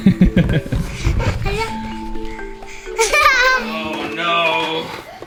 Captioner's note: laughing